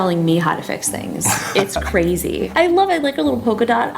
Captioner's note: laughs